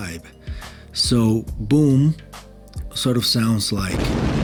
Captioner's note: explosion